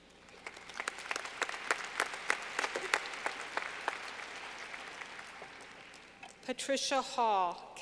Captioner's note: clapping